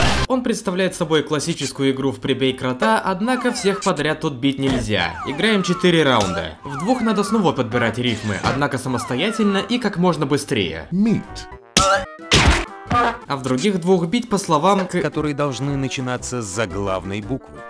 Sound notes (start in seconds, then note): 11.7 bonk; 12.2 bam